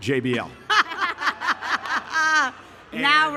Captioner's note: panelists laugh